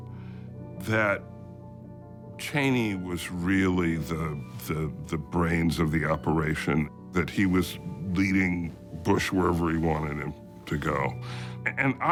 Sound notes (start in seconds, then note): none